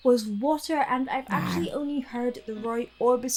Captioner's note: monster growling